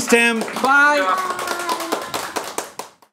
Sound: clapping

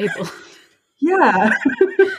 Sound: laughs

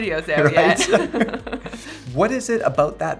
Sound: laughs

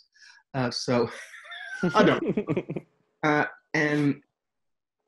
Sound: laughs

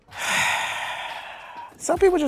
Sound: sighs

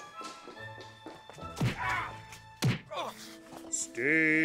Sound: sounds of a brutal beating

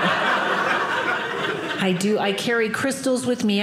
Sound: audience laughing

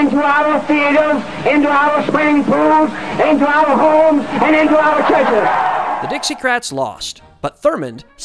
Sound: cheers

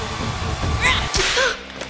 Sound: slap

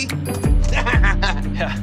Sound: laughs

